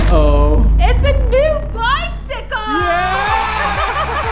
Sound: crowd cheering

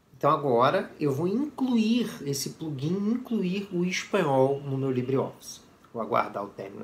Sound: Spanish

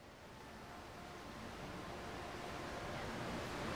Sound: water rushing

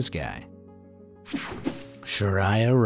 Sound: graphic whooshing

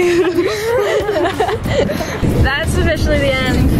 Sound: laughing

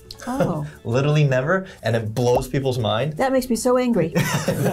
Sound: laughs; both laugh

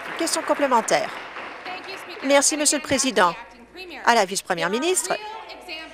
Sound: applause

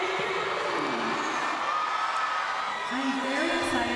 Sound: crowd cheering

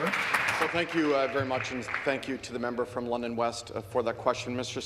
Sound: some Applause

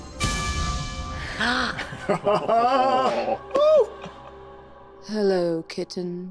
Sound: dramatic sound effects; group exclaiming

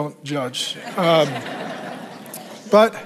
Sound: congregation laughs

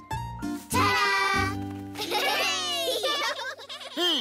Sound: laughing and cheering

